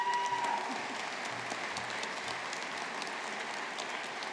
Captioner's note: audience applauding